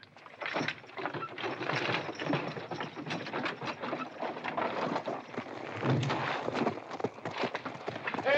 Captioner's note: carriage rattles away